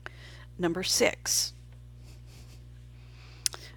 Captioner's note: silent